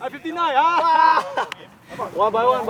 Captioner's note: laughters